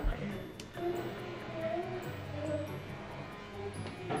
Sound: plane buzz

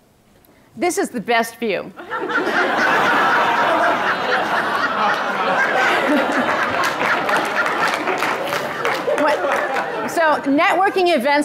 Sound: laughter and applause from audience

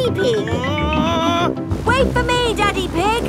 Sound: screaming

